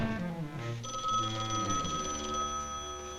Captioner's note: phone ringing